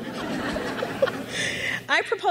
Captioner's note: crowd laughs